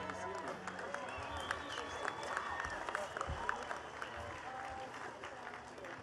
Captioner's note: attendees cheering and clapping